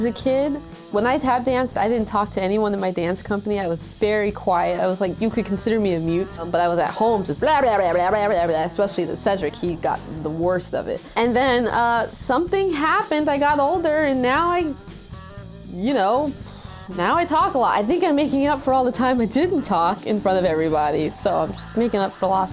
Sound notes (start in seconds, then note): 6.9 babbling